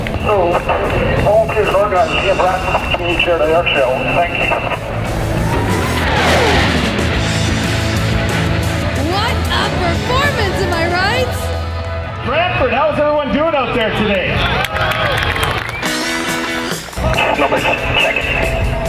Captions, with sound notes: So to all the organizers here in Brantford for the Community Charity Airshow, Thank you. What a performance! Am I right! Brantford, how’s everyone doing out there today? (applause) Snowbirds check.